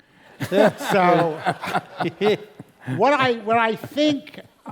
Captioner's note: laugh